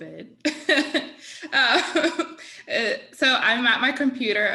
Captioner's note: laughing